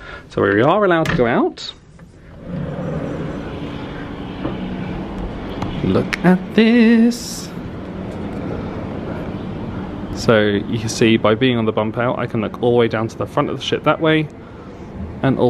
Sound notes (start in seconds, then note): 1.8 door sliding; 3.9 boat engines humming